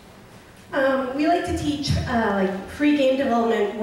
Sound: voiceover

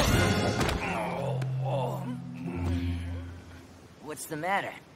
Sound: groaning

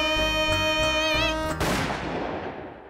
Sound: gun shot

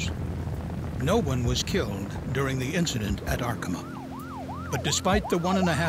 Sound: sound of sirens

